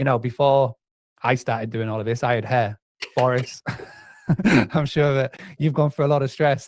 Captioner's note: laughs